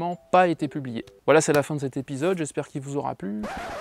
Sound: vinyl noise that derails

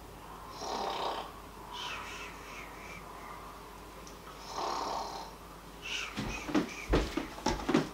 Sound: bored snoring

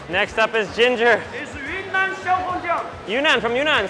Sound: worker speaks Mandarin

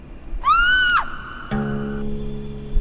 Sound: woman screaming

